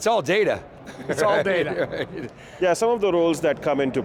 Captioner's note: laughs